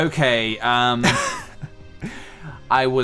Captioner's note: laugh